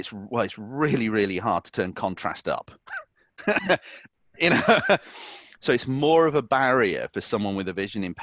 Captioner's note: laughs